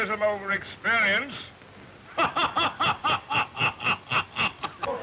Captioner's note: laughing; all laughing